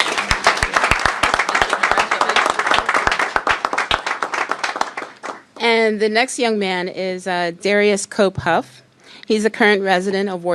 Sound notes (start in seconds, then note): 2.2 applause